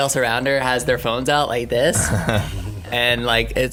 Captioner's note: laughing